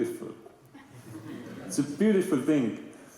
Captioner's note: laughter